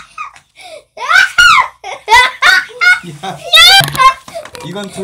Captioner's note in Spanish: Risas; Risas